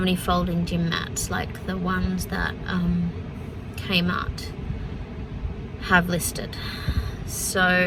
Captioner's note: sighs